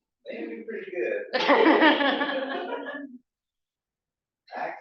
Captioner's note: laughs